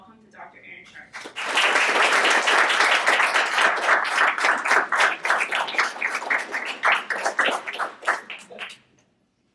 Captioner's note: audience Clapping